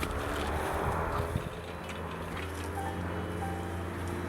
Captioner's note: cars passing in distance